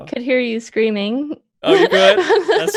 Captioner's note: laughs